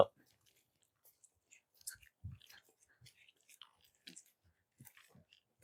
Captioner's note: crunching footsteps